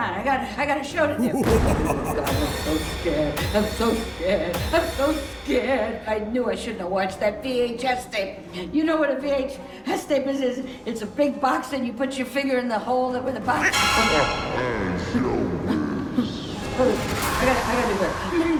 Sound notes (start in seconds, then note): 14.0 monster faintly speaking